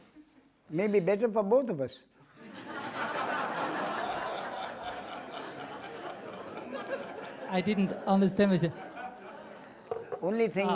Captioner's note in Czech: smích